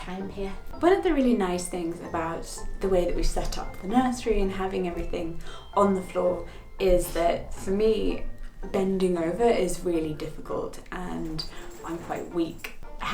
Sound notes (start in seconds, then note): none